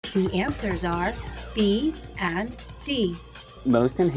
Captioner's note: female announcer speaking